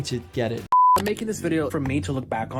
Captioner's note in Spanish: pitidos